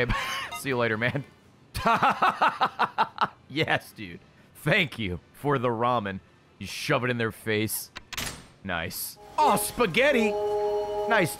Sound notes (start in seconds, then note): 0.0 laughs